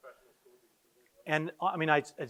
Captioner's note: quietly talking